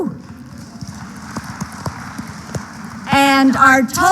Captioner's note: applause